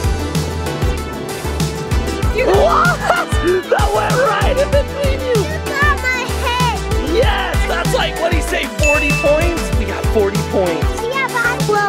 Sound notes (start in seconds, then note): 0.2 upbeat music; 2.4 laughs